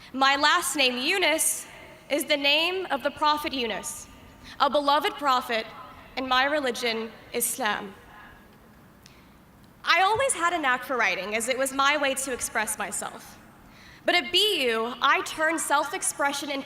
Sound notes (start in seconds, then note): none